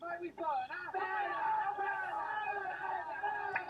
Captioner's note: yelling